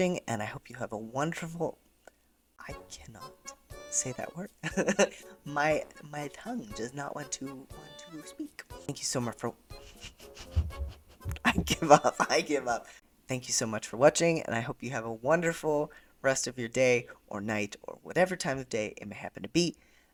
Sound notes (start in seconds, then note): 9.8 laughter